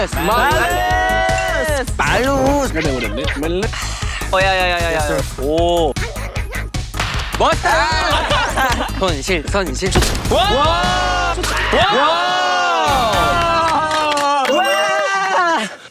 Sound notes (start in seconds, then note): 7.4 hahaha